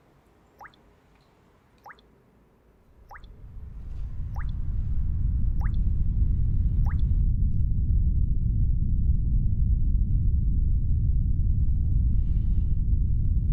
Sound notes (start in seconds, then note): 5.3 wind blows